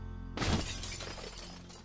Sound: crash

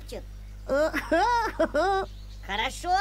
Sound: laughter

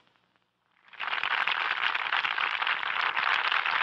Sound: clapping

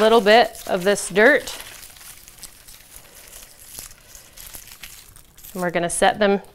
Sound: sound of plant rustling

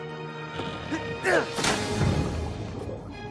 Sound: grunting

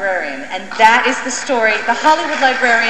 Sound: applause

